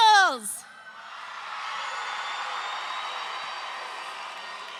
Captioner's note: audience cheering